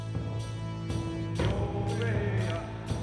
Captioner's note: men chanting